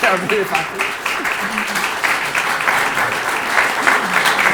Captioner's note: audience applauding